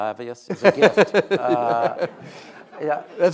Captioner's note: laughing